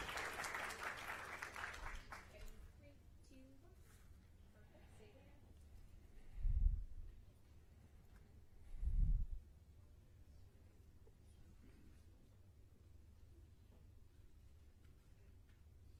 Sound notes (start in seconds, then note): 2.4 applause